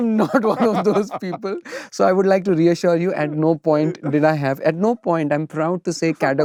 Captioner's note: laughter